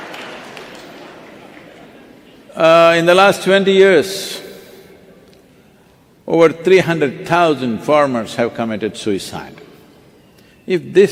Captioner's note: cheering/Applause